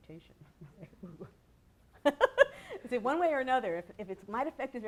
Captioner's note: laughter